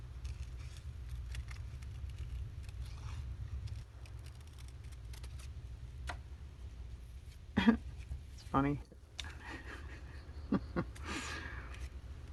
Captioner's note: laughs